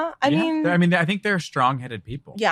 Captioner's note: laughs